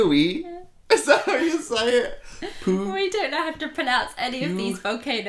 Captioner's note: laughter